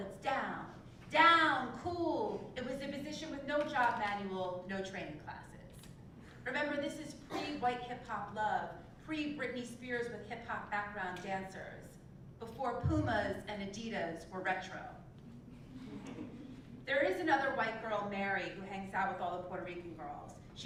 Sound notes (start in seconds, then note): 15.8 laugh